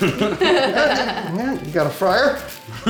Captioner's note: laughs